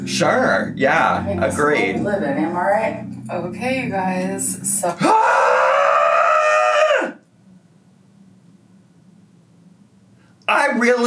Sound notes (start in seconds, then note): 5.4 yelling